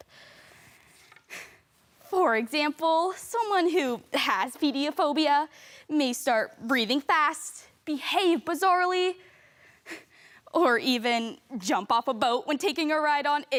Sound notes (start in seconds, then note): 0.0 soft breathing; 9.2 sharp breaths